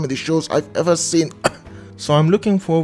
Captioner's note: cough